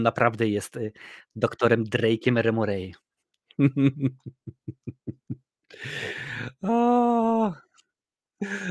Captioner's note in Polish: śmiech